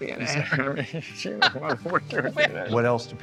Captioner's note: both laughing